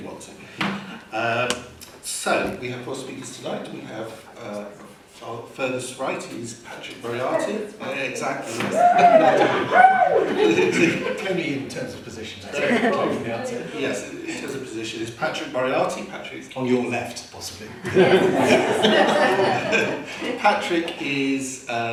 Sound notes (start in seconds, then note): 8.7 laughter from audience; 17.8 laughter